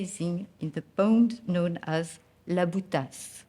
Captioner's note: speaking French